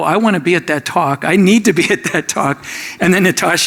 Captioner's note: laughs